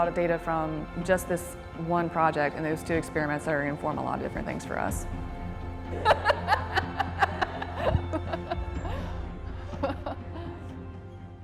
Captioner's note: laughter